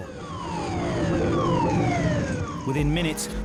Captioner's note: siren blaring